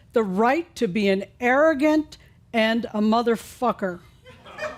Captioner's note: a few chuckles